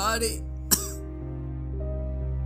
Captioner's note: coughs